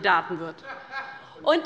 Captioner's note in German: Lachen